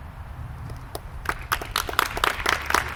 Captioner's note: applause